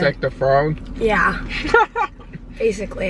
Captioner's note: laughter